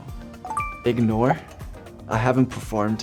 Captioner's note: beeps